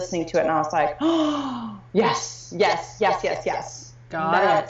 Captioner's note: gasping